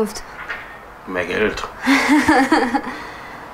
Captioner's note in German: lacht